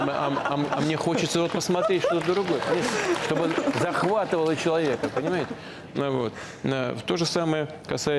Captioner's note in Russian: Смех в зале